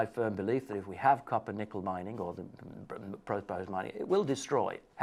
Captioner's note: murmurs